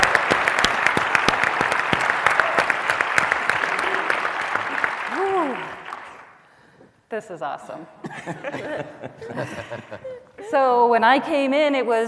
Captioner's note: cheers and applause